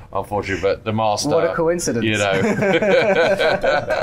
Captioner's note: laughs